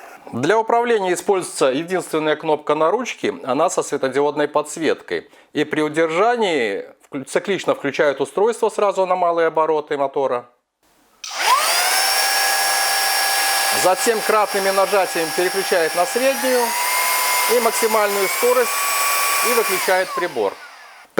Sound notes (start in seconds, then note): 12.8 motor noise